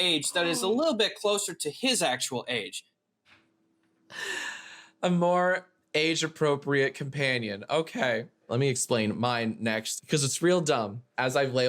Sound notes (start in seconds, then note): 4.1 inhales loudly